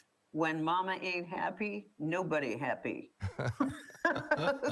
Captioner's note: laughs